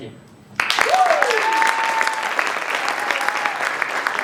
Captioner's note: applause and cheering